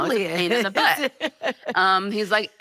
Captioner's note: laughing